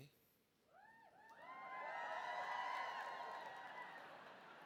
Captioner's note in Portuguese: audience cheering